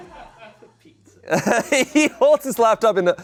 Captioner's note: audience laughing